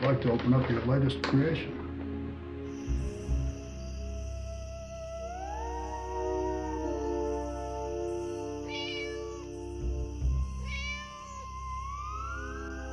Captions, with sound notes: I'd like to open up your latest creation. (ominous music) (cat meows)